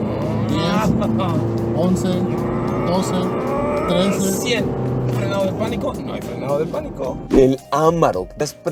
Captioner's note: grunting